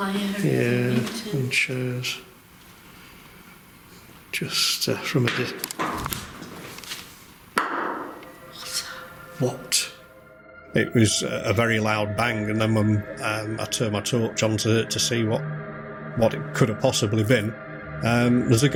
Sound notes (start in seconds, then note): 5.9 clattering; 7.6 walls banging